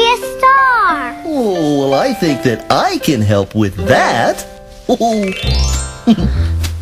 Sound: chuckle

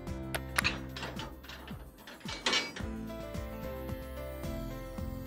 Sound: metal clanking

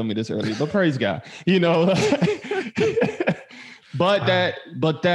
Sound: all laughing

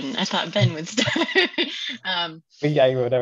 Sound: laughs

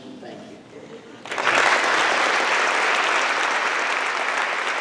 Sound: applause

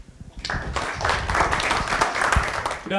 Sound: applause

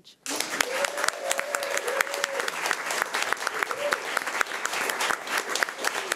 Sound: everyone applauding and cheering

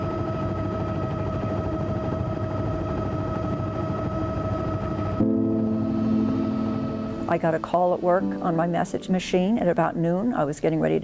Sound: helicopter hovering

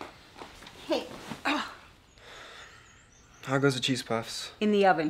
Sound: groans

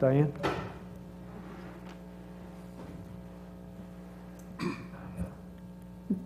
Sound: cough

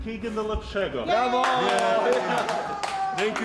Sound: cheering

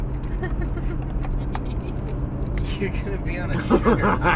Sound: laughs

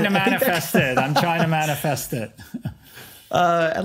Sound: laughing

